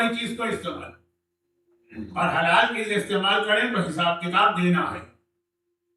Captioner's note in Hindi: गला साफ़ करने की आवाज़